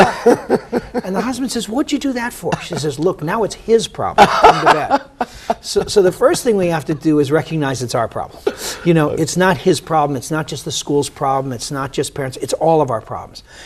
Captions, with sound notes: AND THE HUSBAND SAYS, "WHAT DID YOU DO THAT FOR?" SHE SAYS, "LOOK. NOW IT'S HIS PROBLEM [LAUGHTER]. SO THE FIRST THING WE HAVE TO DO IS RECOGNIZE IT'S OUR PROBLEM. YOU KNOW, IT'S NOT HIS PROBLEM, IT'S NOT JUST THE SCHOOL'S PROBLEM, IT'S NOT JUST PARENTS, IT'S ALL OF OUR PROBLEMS.